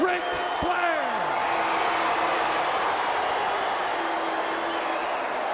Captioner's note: audience clamoring